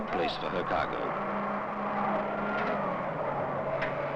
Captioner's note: engines running